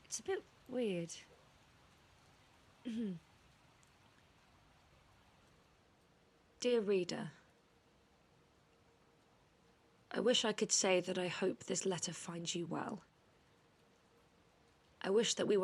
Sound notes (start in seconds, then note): 2.8 nyx clears their throat